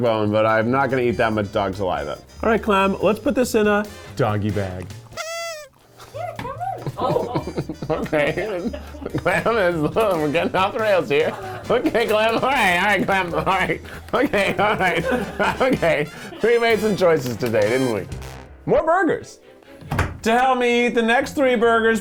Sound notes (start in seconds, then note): 5.2 horn honks; 7.1 laughing